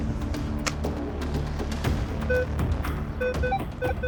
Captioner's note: beeping